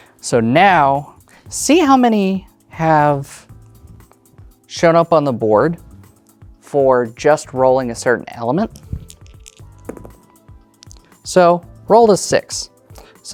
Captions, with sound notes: So, now, see how many have shown up on the board, for just rolling a certain element. (dice rattling) (dice rolling) So, rolled a 6.